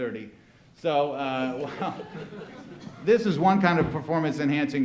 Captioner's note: laughing